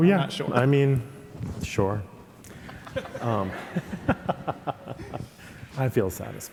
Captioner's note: audience laughing